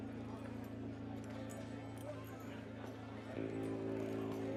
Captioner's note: saloon chatter